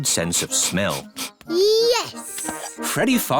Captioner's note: sniffs